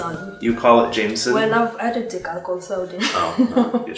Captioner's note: laughs